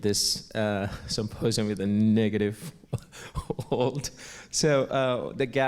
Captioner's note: laugh